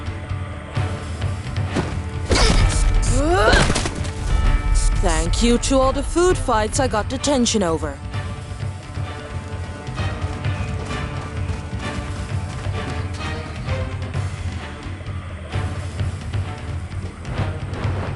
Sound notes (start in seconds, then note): 3.0 Nura grunts